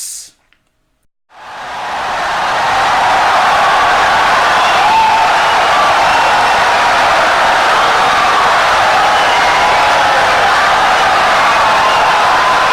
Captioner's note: wild applause and cheering for 17 seconds